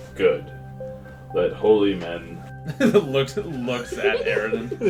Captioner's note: giggling; laughs